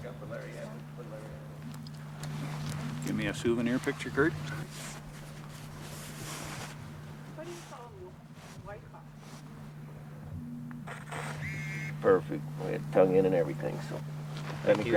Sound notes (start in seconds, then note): 0.0 men chattering; 10.9 camera clicks